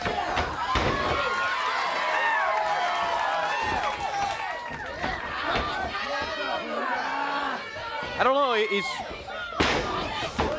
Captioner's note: crowd chatter